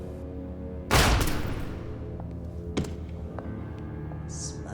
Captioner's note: gunshot fires